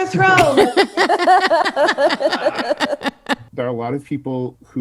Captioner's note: laughs